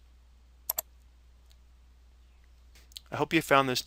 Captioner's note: mouse clicking